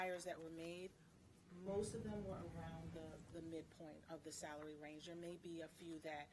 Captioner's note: speaking away from mic